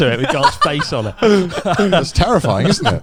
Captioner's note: laughs